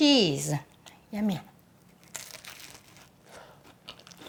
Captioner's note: crunch sound